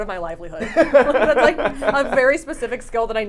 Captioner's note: laughs